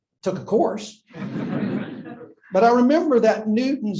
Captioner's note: laughter